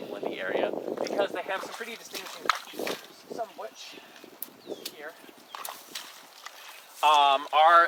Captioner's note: wet footsteps covering up words